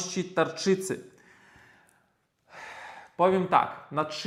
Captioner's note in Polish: westchnienie